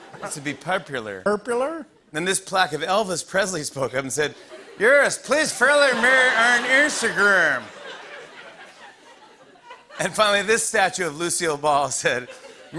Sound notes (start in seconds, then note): 8.1 laughter